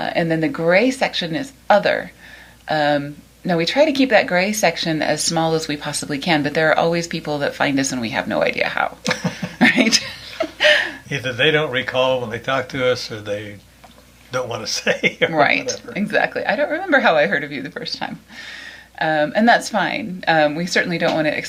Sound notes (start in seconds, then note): 9.0 both laugh; 14.3 laughs